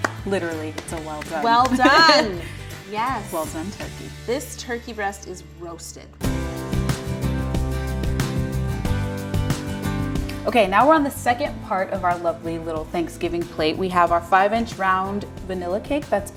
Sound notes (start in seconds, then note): 1.6 laughing; 6.2 mid tempo instrumental